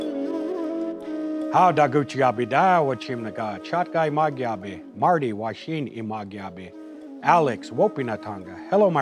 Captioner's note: calm music; speaking Assiniboine